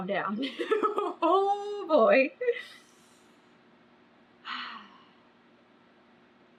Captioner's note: laughs; sighs